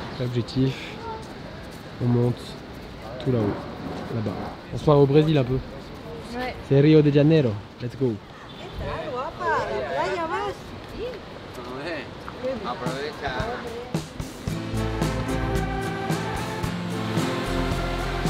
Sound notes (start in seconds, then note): 8.4 women talking